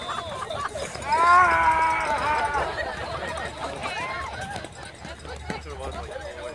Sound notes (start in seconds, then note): 1.9 laughing